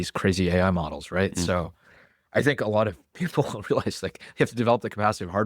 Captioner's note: laughs